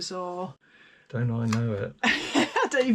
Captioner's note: laughter